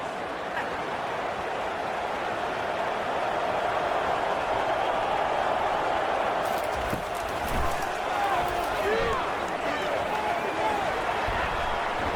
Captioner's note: crowd Noises